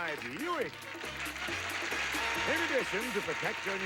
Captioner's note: audience applauding